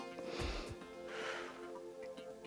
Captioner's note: inhales and exhales